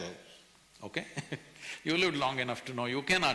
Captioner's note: laughs